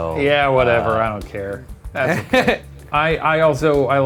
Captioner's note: laughs loudly